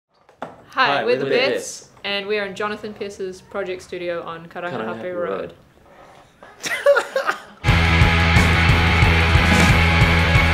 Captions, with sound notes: Hi, we're the Beths. And we're in Jonathan Pierce's project studio on Karangahape Road (laughter)